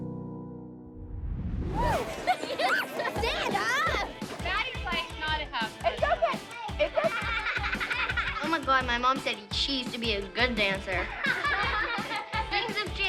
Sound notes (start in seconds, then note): 1.3 giggling and shrieking; 10.8 girls laughing